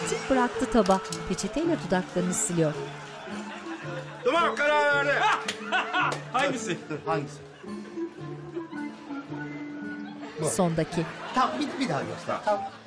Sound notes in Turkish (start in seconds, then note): 5.2 Gülme sesi